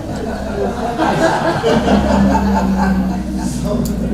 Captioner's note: laughter